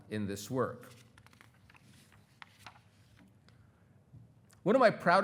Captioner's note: pages rustling